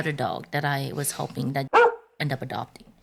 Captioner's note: bark